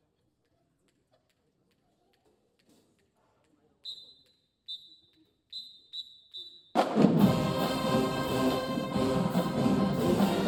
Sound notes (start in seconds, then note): 5.4 whistle blowing; 6.8 upbeat band music